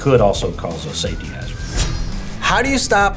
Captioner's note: sirens wailing; blade ringing